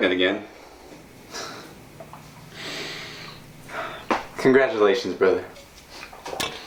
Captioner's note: chuckling